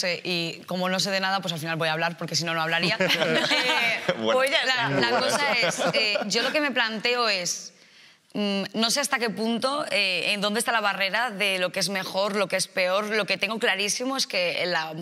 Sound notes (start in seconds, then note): 2.8 they all laugh